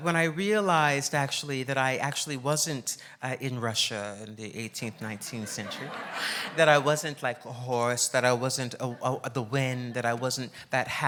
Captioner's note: laughs